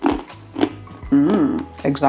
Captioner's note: crunch crunch crunch